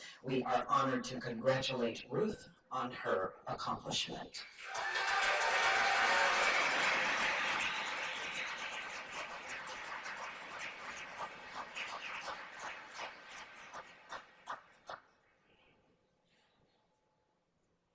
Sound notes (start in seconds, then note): 4.5 cheers and applause; 14.7 silence